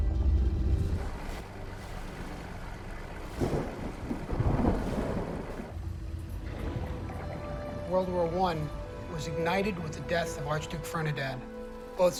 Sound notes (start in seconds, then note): 3.5 thunder rumbling